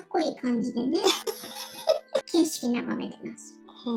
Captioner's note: laughs